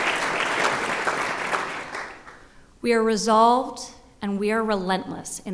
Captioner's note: applause